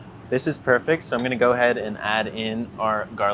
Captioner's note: none